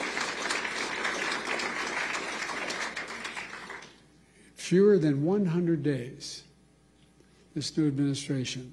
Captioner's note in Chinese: 掌声